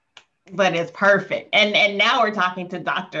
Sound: fingers snapping

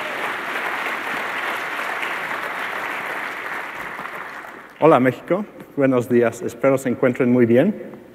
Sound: applause

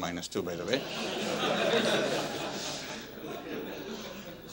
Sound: laughter

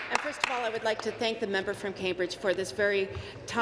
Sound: some Applause

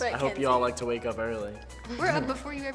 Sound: chuckles

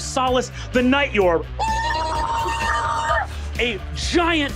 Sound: gibbering menacingly

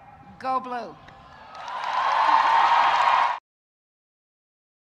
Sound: audience cheering

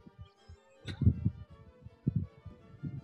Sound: chuckling

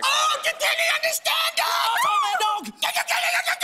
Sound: screams; shouting gibberish

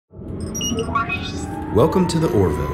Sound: beeping

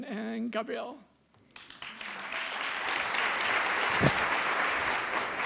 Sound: applause

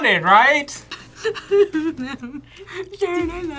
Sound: cries

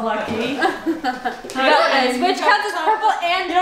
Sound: laughing

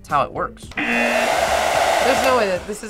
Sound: buzzer rings

